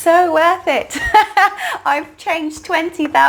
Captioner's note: laughs